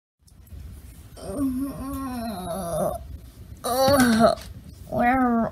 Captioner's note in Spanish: ambos gimiendo